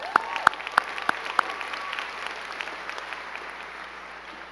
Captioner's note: crowd clapping